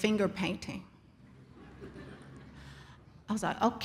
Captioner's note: audience laughs